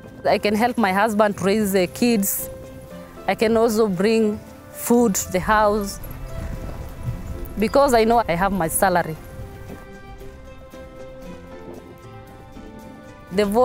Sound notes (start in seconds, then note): 9.9 laundry flaps